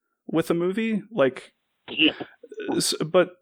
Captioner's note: laughs